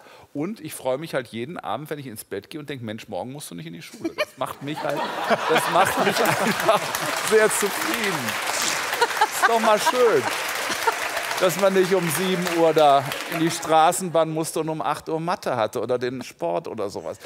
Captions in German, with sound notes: Ich freue mich jeden Abend, wenn ich ins Bett gehe und denke: "Mensch, morgen musst du nicht in die Schule." Das macht mich einfach sehr zufrieden. *Lachen* *Applaus* Dass man nicht um 7 Uhr in die Straßenbahn musste und um 8 Uhr Mathe hatte oder den Sport oder so was.